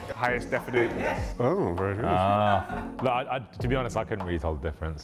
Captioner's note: laughing